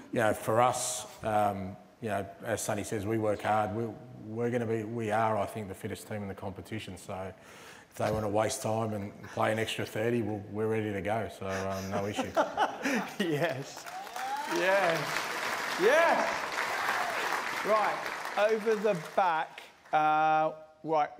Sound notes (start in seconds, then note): 11.5 laughter; 13.4 applause